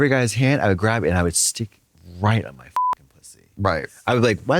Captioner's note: beep